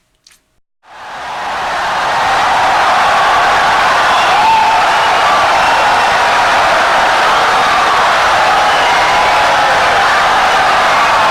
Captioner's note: wild applause and cheering for 17 seconds